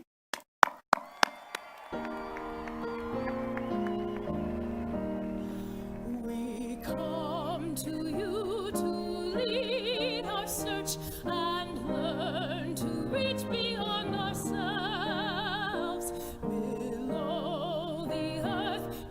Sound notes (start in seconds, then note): 3.4 applause